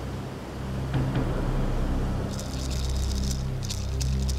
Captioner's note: rattling